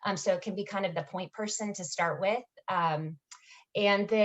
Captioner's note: none